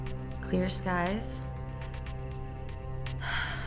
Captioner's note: sighs